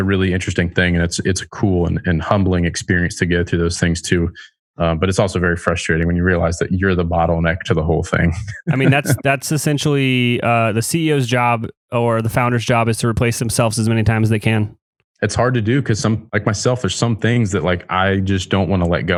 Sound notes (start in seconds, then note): 8.3 laughs